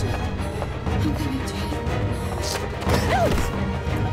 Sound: suspenseful music; heavy breathing

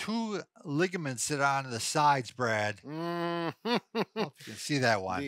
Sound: laughs

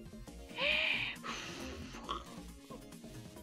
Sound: blows

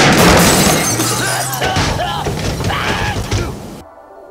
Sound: violent coughing from "dust"

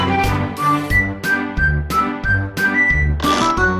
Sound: Spiral Doge whistles

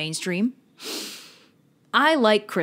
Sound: deep Breath

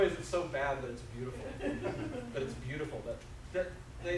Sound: audience laughs

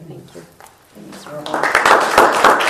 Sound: applause

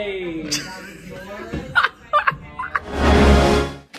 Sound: laughing

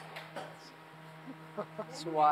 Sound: chuckles

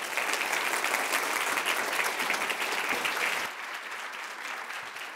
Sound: audience applauding

